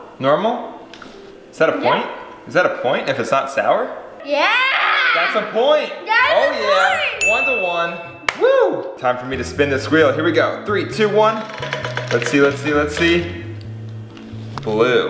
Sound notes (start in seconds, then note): 8.2 hands clap